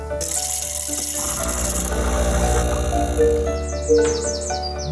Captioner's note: coffee grinding; water flowing; phone beeping